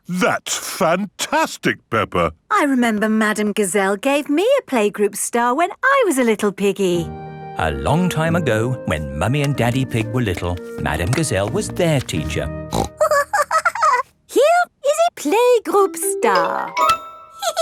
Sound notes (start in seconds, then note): 12.7 snorts and giggles